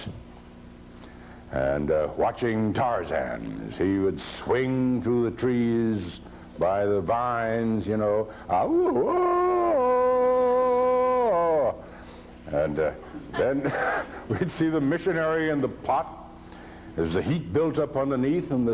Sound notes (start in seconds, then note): 8.5 Farmer makes the Tarzan call; 13.0 laughs